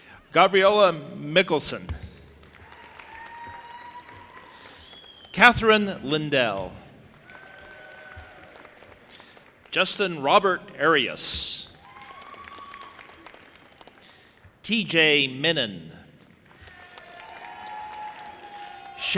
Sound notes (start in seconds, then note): 2.4 audience applauding and cheering; 7.0 audience applauding and cheering; 11.7 audience applauding and cheering; 16.4 audience applauding and cheering